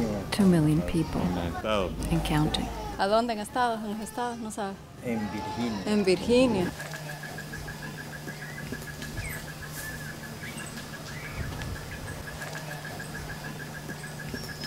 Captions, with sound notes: 2,000,000 people and counting. (speaking Spanish) (birds chirping)